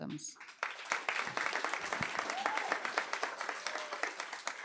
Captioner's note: applause